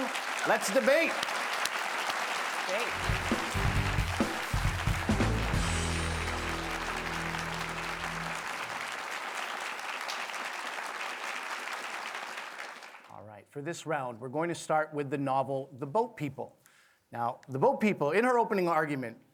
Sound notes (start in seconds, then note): 11.6 applause